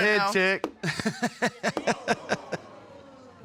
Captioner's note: laughs